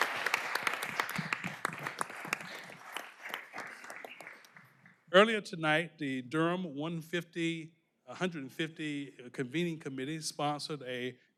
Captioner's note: applause